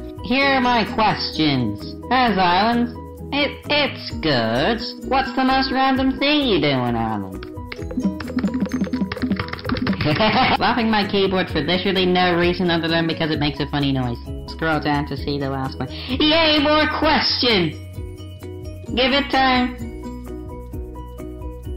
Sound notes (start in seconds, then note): 7.6 slapping keyboard; 9.9 insane laughing